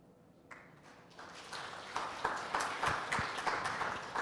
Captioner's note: applause